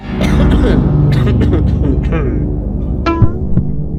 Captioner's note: cough cough cough cough; cough cough